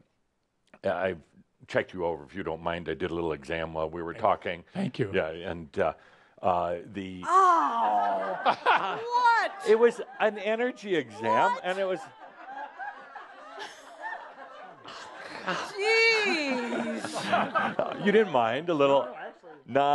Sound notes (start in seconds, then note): 7.8 laughter; 14.9 laughter